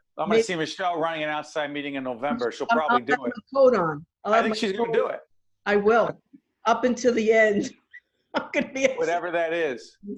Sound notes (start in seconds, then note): 8.0 laughing